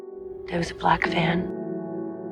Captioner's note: voiceover